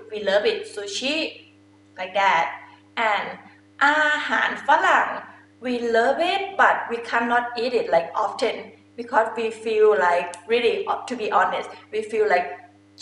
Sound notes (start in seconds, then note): 3.3 talking in foreign language